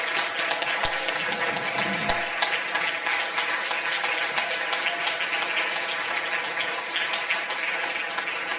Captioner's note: audience applause